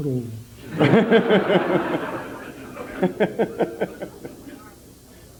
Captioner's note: general laughter